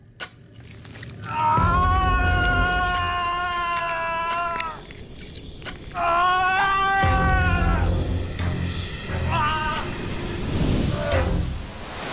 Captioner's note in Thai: เสียงความเจ็บปวด